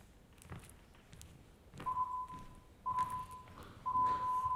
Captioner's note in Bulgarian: Звуков сигнал